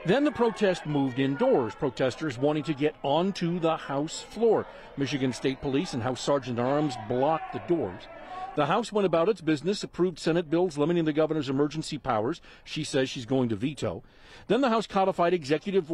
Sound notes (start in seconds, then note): 3.2 chanting